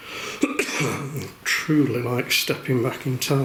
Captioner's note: coughing